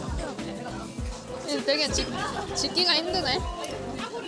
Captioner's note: laughs